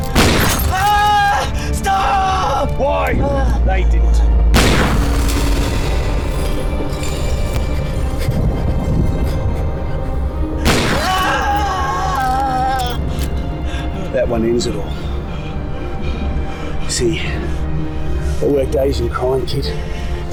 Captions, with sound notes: [Gunshot] Stop! Why? They didn't. [Gunshot] [Gunshot] [Screams] That one ends it all. See, I worked Asian crime squad kid. I know Bao